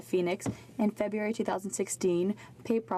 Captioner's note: speaking French